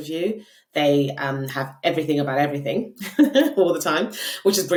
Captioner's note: laughing